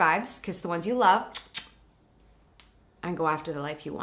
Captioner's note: lips smacking